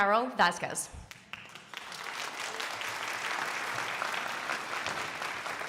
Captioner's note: crowd applauding